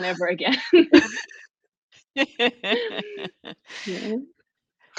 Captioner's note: laughter